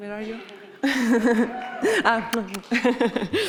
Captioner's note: chuckles; group chuckles; lips smacking; chuckles